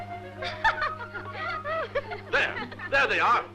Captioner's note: laughing